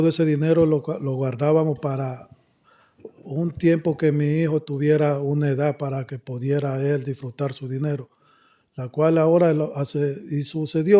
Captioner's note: speaking spanish